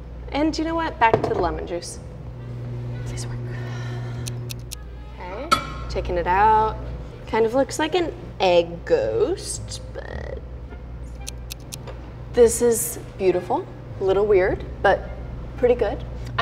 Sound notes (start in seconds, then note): 3.9 sighs; 4.4 clock ticking